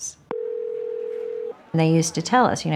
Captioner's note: phone ringing out